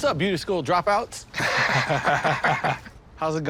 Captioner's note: laughter